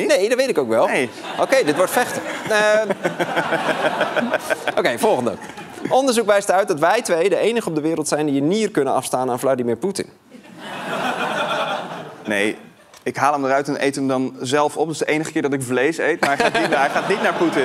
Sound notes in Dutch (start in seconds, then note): 10.3 gelach